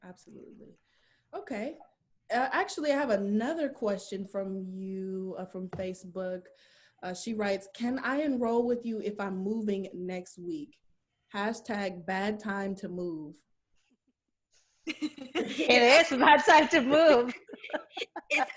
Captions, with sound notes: Absolutely. Okay. Actually, I have another question from from Facebook. She writes, can I enroll with you if I'm moving next week hashtag bad time to move. [laughs] It is bad time to move.